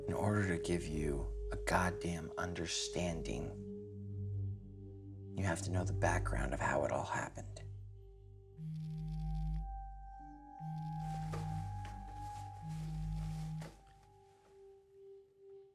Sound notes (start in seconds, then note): 8.6 phone buzzing